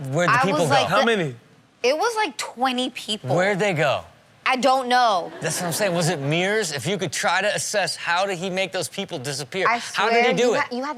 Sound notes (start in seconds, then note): 5.2 crowd laughing